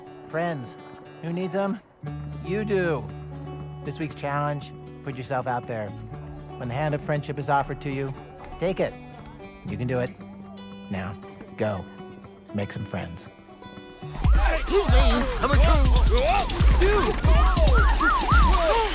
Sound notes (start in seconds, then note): 14.2 crowd noises